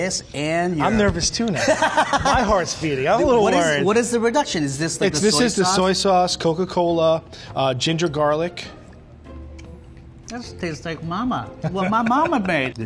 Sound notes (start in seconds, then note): 1.5 laughter; 8.6 chewing